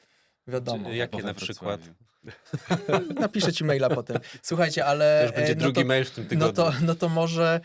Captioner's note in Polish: śmiech